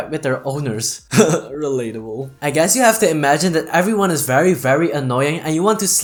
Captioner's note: chuckles